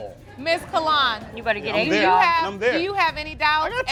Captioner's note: crowd laughing